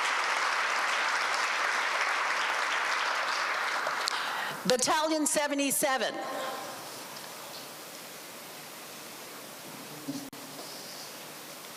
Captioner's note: applause